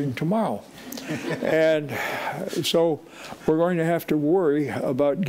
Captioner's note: audience laughing